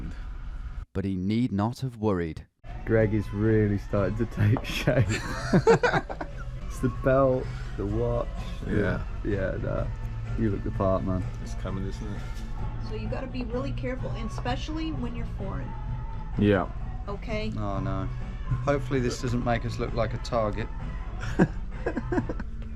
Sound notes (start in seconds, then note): 6.5 laughs